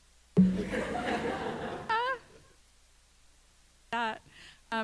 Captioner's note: audience laughs